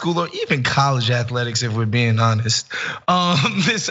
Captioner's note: laugh